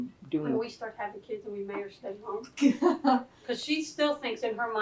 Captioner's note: laughter